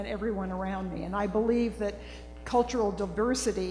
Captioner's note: none